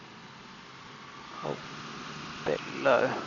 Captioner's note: plane engine whirring